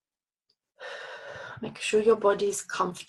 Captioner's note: exhales deeply